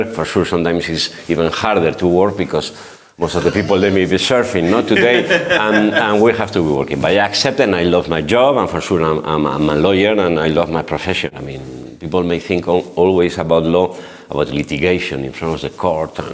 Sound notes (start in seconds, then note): 4.5 laughs